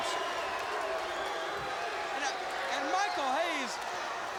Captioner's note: crowd cheering